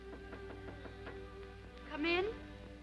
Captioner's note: knuckles rapping